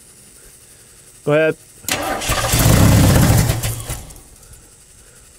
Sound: engine straining

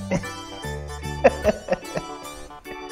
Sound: laughs

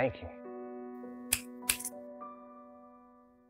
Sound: finger snaps

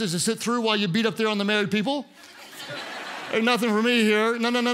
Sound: congregants laugh

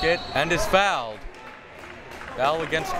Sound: whistle tweeting

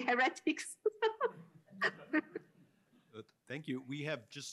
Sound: laughs

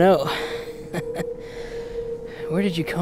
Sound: laughing

